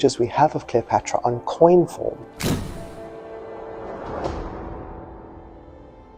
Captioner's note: camera flashing